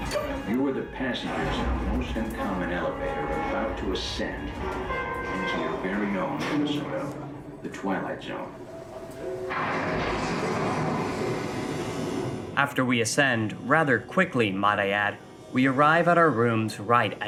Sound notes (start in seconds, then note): 9.2 thunder strikes